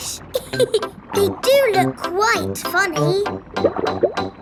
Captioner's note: laughs